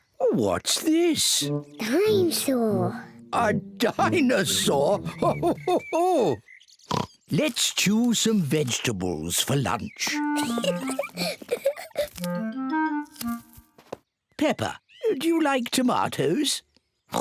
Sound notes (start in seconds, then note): 3.8 laughs; 6.9 oinks; 10.2 giggles